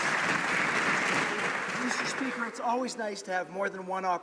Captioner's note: some Applause